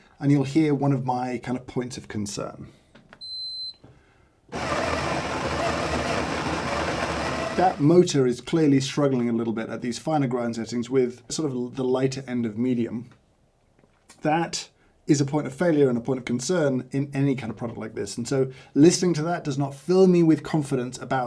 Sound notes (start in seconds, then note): 4.5 machine beeps and grinds